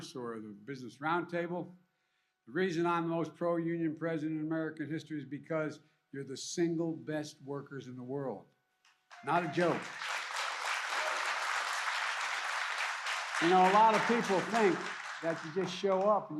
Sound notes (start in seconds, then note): 9.1 applause